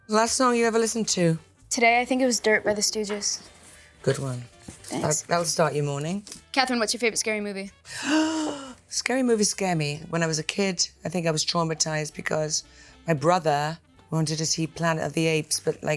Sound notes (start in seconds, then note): 7.9 gasps